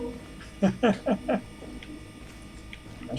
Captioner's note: chuckles